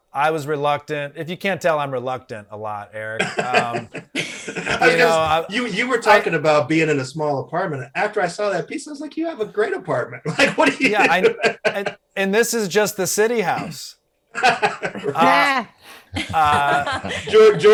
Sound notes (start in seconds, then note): 3.2 Desi and Eric laughing; 10.1 Eric laughs; 15.9 panelists laughing